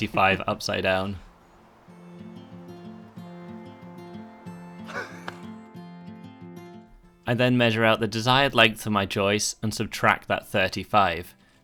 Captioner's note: laughing